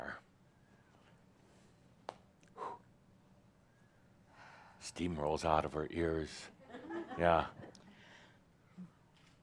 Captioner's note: she pauses again and sighs; a few chuckles